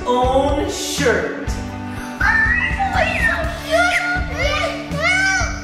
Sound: screaming; squealing

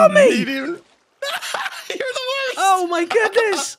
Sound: laughs

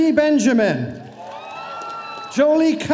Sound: audience cheering

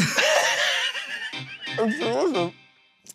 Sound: laughter

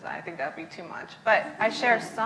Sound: laughs

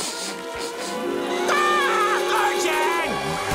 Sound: sniffing; screaming

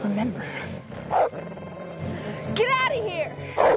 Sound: wolf growling

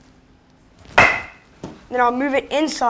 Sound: baseball bat cracks

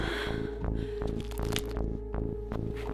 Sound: neck cracking

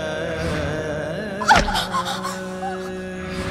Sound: screams

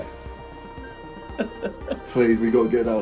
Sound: both laughing

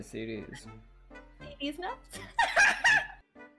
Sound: confused; speaking quietly; laughs

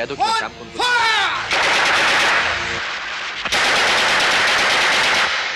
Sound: gunfire

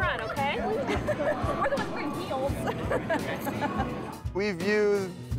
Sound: laughing

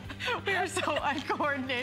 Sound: laughter

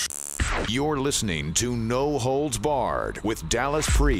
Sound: radio Voiceover

